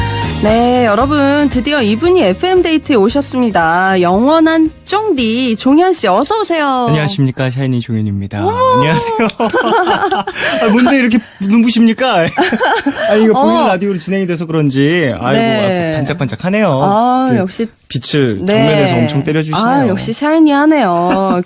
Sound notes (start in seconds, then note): 8.7 laughs